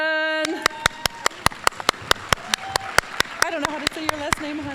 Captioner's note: applause